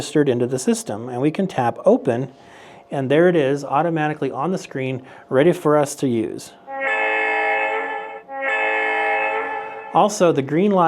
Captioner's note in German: Hupe ertönt